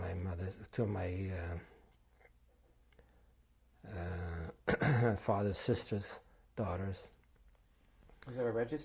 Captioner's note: clears throat